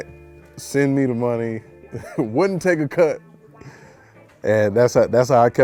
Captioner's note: chuckles